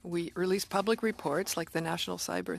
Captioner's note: speaking French